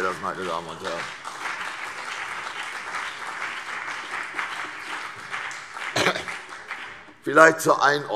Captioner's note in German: Beifall CDU und BÜNDNIS 90/DIE GRÜNEN